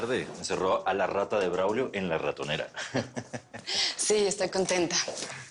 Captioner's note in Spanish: Ríe